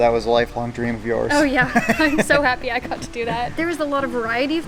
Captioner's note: laughs